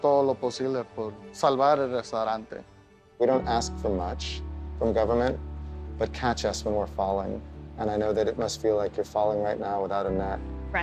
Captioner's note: speaking foreign language